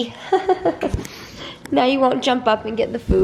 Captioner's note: laughs